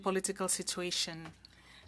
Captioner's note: speaking French